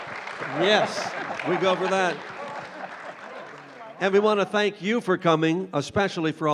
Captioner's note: applause